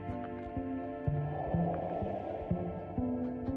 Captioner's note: wind blowing